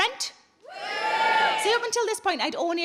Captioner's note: crowd cheering